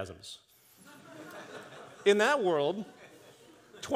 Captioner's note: audience chuckles